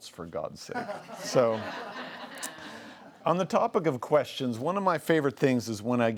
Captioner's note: laughs